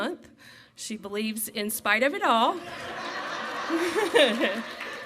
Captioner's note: laughs